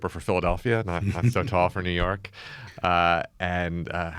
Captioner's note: laughs